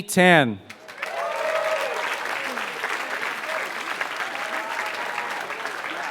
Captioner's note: applause